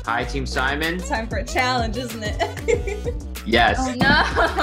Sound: laughs

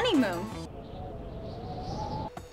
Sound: wind whistles

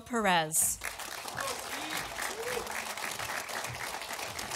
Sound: audience applauding

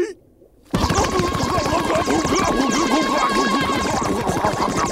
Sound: choking

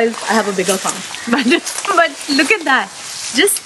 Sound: laughs

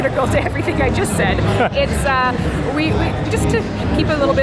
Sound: laughs

